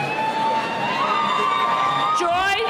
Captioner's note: cheering